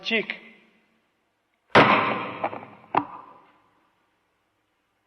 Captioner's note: hits microphone, making a loud sound